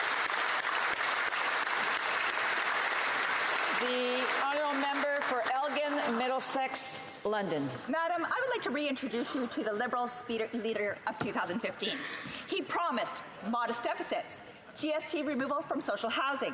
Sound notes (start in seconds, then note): 1.6 some Applause